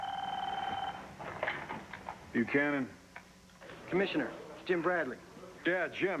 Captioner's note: telephone rings